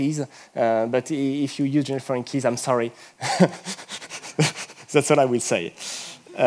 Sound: laughs

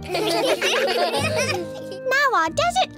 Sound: laughter

